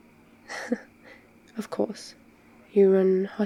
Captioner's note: laughs